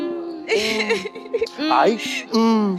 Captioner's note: ʰᵘᵐᵖʰ